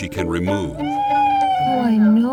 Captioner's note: Joey wailing